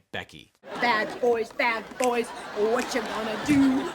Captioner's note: audience laughing